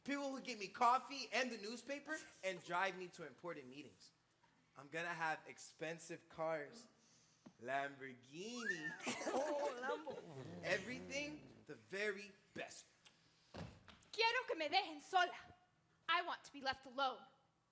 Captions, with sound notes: people who would get me coffee and the newspaper, and drive me to important meetings. I'm gonna have expensive cars, Lamborghini. (performers laughing) Everything, the very best. [speaking Spanish] - I want to be left alone.